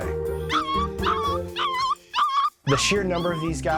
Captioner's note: puppy whining